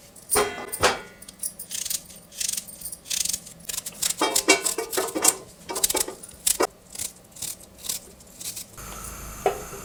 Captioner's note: crisp chopping of fresh onions